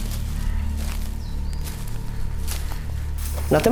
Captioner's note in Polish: odgłos kroków